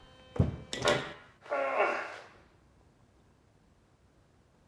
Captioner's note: grunting